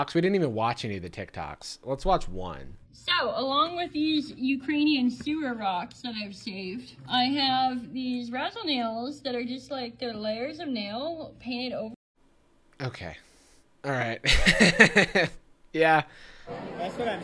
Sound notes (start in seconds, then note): 14.2 laughing